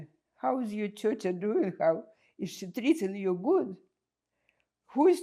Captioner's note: russian